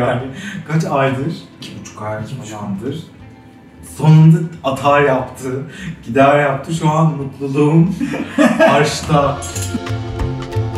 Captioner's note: laughs